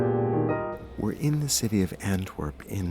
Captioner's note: jazz piano music; voiceover